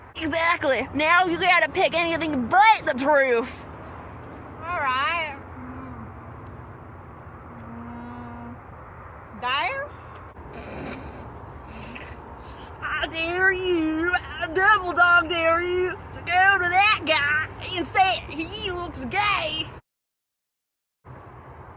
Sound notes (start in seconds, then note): 10.6 snickers